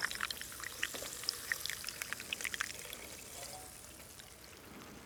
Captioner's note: soda fizzing